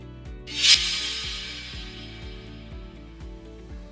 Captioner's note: upbeat music; air tings